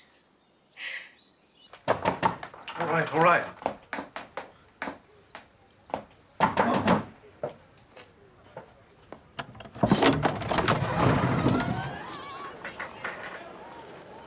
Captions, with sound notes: (knocking at door) All right, all right.